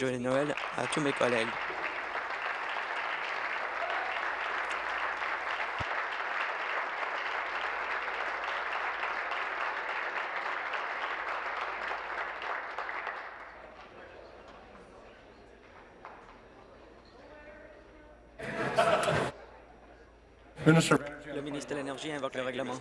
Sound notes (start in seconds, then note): 5.3 applause